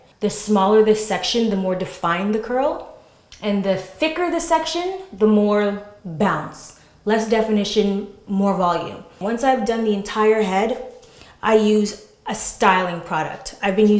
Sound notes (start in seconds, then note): none